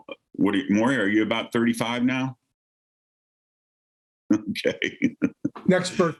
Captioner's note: laughs